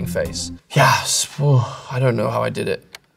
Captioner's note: sighs